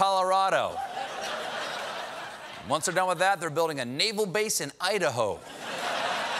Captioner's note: laughter